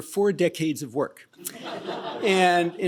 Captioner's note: laughter